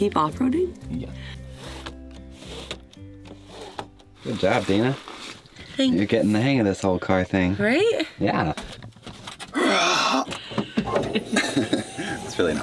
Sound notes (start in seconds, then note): 2.3 windows sliding; 9.5 roars; 10.8 laughs